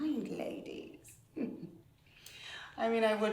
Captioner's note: laughing